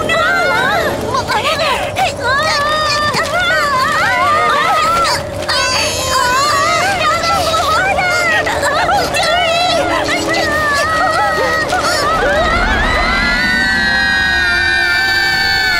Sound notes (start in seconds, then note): 1.4 all straining, screaming; 10.9 all screaming